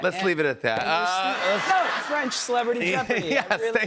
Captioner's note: laughter